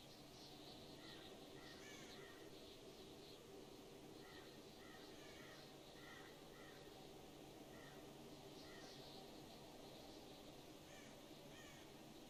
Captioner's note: sounds of crows